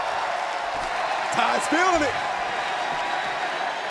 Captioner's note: crowd cheering